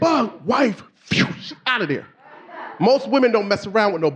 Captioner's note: swooshes